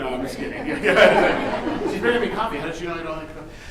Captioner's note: chuckles